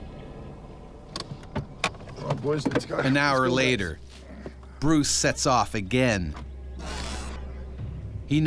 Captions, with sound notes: - Come on boys let's go. - [Voiceover] An hour later Bruce sets off again.